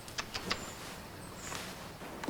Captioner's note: clicking of tongue